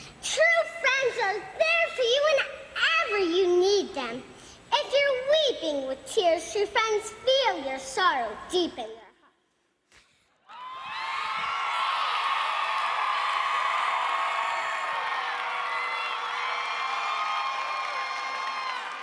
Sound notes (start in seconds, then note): 10.4 crowd cheering